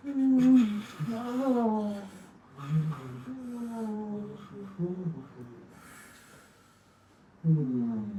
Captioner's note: moaning